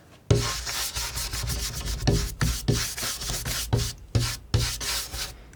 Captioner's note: scratching